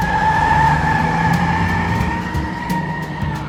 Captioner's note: engine turns over; tires screech